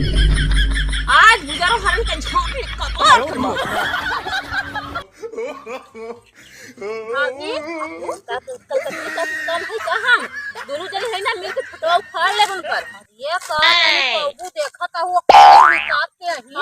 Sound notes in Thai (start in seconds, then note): 6.7 เสียงหัวเราะ